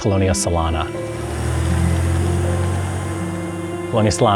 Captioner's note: car Passing